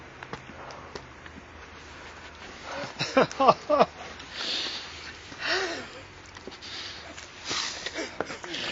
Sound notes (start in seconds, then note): 2.7 both men crying